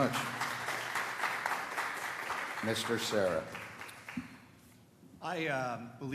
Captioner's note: applause